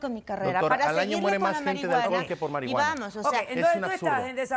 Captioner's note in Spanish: Hablan al unísono